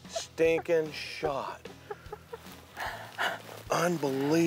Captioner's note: laughing